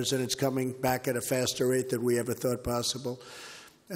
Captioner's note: none